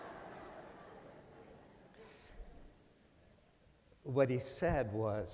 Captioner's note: laughter